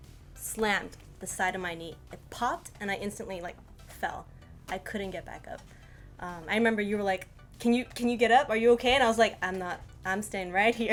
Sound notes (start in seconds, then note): none